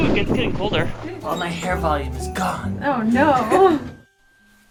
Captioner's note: both laugh